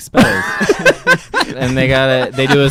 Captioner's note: laughing